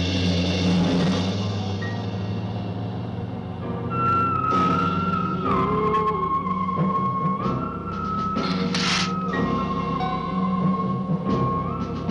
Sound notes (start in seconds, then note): 8.3 hissing